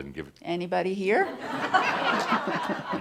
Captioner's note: laughter